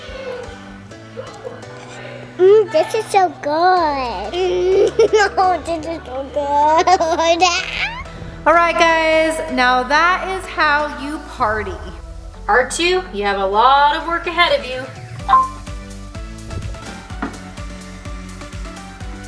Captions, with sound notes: (upbeat music) - Mmm, this is so good. (laughing) - Oh, this is so good. (laughing) - Alright guys, now that is how you party. R2, you have a lot of work ahead of you. (beep)